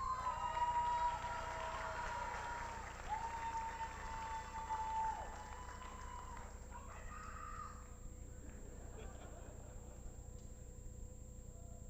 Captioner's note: applause